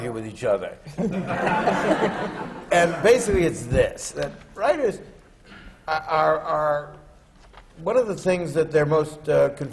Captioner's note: laughter